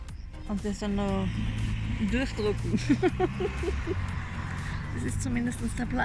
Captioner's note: laughter